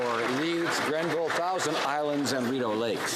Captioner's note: some Applause